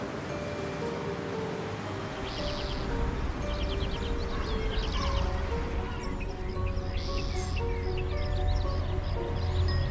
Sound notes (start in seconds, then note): 0.2 mysterious music; 0.2 traffic humming; 3.1 birds chirping